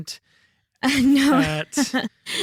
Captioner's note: laughs